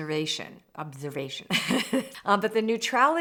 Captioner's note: laughing